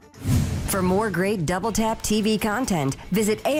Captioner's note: voiceover